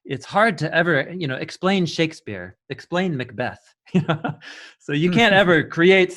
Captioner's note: laughing